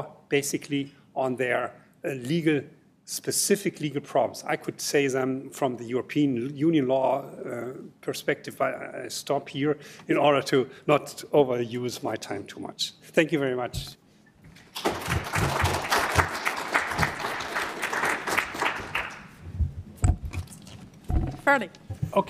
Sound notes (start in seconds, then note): 14.6 applause